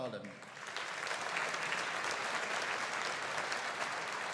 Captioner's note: audience applauding